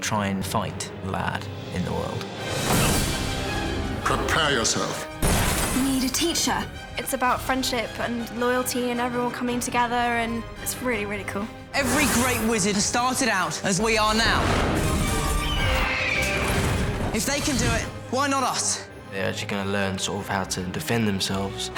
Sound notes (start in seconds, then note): 15.2 fawkes screeching